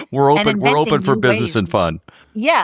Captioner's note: laugh